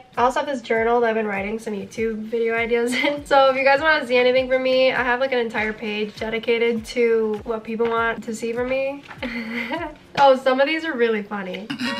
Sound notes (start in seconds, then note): 2.8 chuckles; 9.2 chuckles; 11.7 chuckles; 11.7 instrumental music